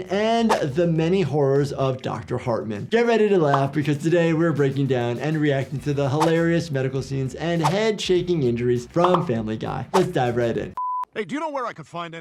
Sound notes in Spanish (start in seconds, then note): none